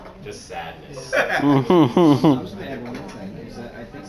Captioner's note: laughter